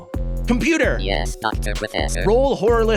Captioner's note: COMPUTER VOICE: yes, Dr. Professor?